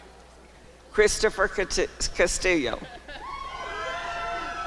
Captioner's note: applause and cheering